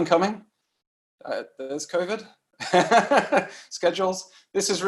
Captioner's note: laughs